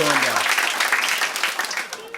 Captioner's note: applause